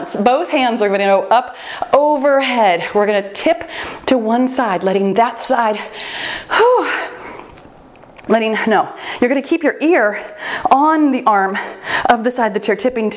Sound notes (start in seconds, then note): 5.4 timer beeps